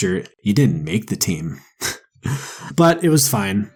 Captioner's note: laughs